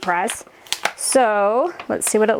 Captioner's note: paper rattles